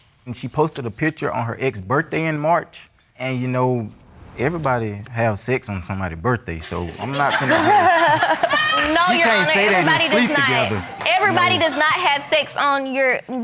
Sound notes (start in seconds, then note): 6.6 audience laughs